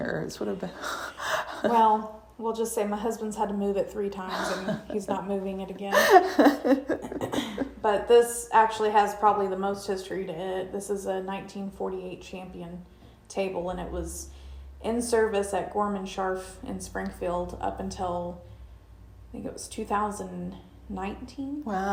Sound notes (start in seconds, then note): 0.8 chuckling; 5.8 laughing